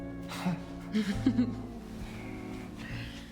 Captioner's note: laughs